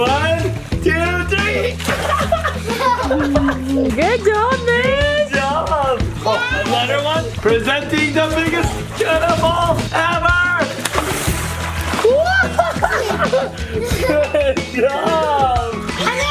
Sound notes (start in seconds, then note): 1.2 water splashing; 1.5 laughing; 10.8 water splashing